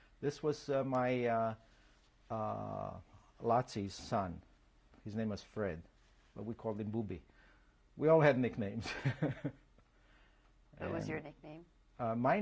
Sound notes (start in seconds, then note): 8.6 laughs